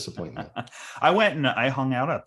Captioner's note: laughing